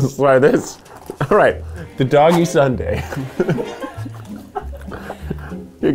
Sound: laughs

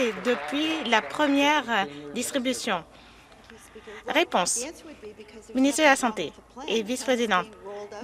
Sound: some Applause

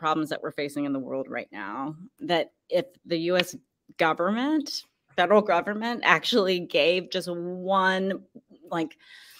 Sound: none

